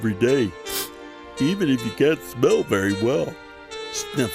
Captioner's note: Snuffy sniffling